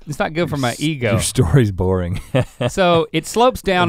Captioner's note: chuckles